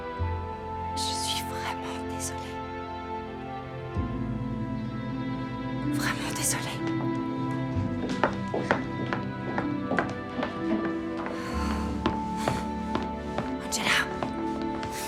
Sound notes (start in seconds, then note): 8.7 footsteps receding